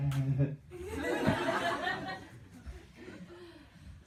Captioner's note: laughter